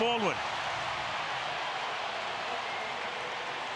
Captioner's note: crowd cheering